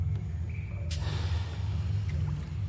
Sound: sighs

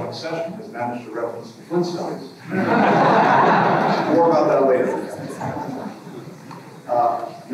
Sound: laughter

